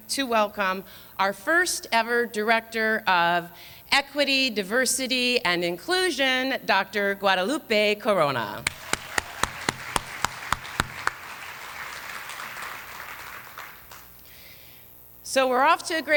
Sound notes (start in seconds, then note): 8.6 applause